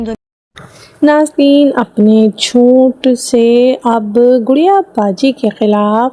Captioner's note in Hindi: नाक से की जाने वाली आवाज़